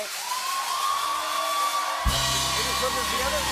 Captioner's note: cheers and applause